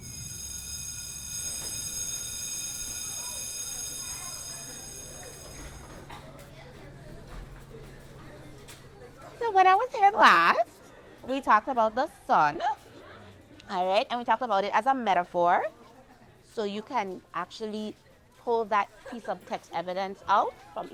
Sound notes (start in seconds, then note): 0.0 school bell ringing; 2.7 students chattering in background